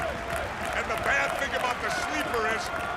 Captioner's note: crowd cheering